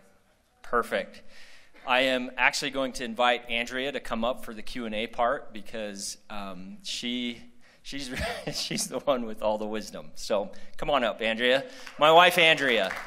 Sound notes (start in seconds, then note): 8.1 laughter